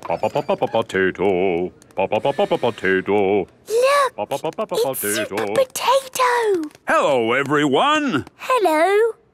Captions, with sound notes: - (sing-song voice) Po-Po-Po-Potato! Po-Po-Po-Potato! - (hushed) Look! It's Super Potato! - Hello, everyone! - Hello!